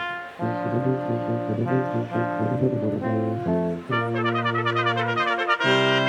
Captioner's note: crowd chattering; triumphant music continues